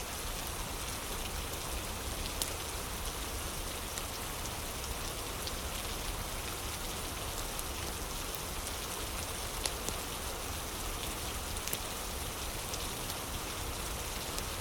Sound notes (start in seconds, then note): 0.0 fire crackling